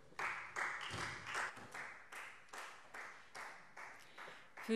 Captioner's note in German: Beifall Freie Demokraten